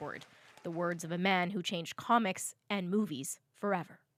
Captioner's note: cheers and Applause